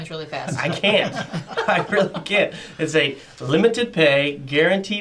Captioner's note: all laugh